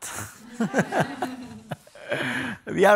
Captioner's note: people laughing